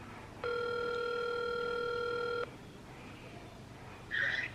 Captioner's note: phone ringing